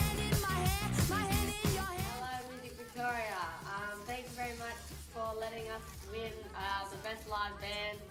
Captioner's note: applause